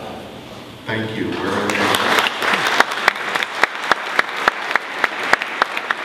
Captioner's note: audience applauding